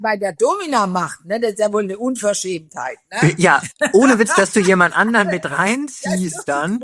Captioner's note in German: gelächter